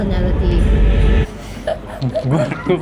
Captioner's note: laughter